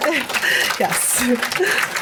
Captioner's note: audience applauding